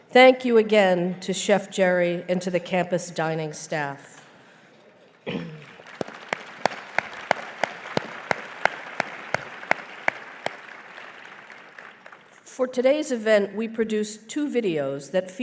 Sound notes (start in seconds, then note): 5.4 applause